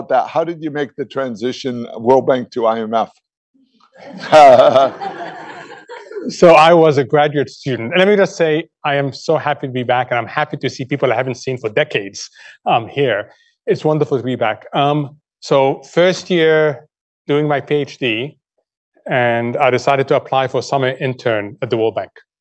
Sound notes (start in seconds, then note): 4.0 laughter